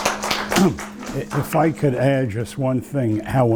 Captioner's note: applause